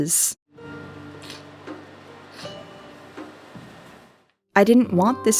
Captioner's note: me crying